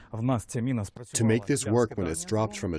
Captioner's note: through translator